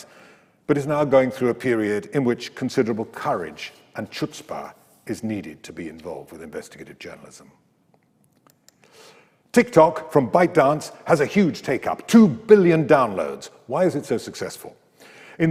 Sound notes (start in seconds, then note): none